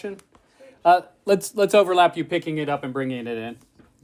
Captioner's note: none